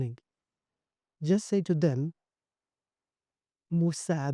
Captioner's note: Arabic